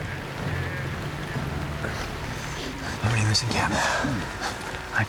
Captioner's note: rain pours